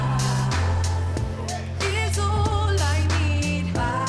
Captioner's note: laughter